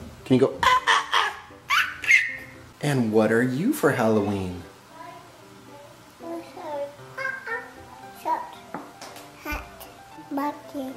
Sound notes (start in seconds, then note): 0.6 monkey call; 7.0 makes monkey call